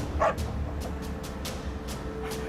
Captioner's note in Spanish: Ladridos